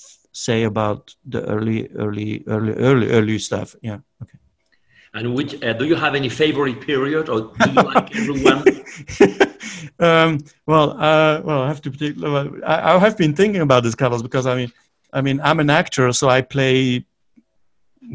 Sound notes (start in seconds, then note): 7.4 giggles; 7.6 keeps laughing